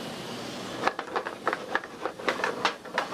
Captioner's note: pan stirs